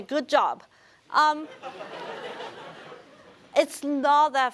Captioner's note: laughter